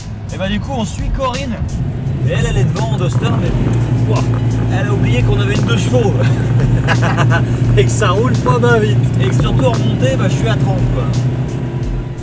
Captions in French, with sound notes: Et bien du coup, on suit Corinne. Et elle, elle est devant en Duster mais... Ouah ! Elle a oublié q'on était en 2 Cv ! (Rire) - Et que ça roule pas bien vite ! - Et surtout qu'en montée, ben je suis à 30 km/h.